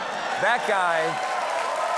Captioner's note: cheers and applause